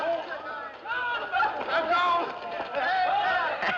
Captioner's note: Conversando, gritando; Risos